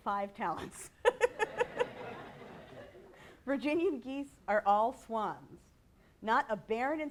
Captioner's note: laughter